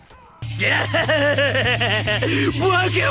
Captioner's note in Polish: manic laugh